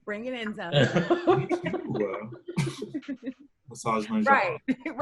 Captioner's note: all softly giggling